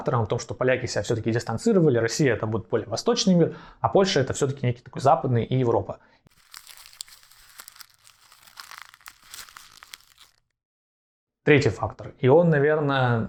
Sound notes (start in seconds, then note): 10.2 crumpled paper sound